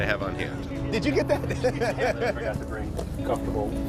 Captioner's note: both men laughing